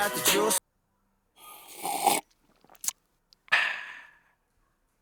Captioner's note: sipping